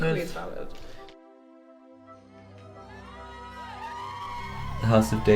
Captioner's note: audience cheering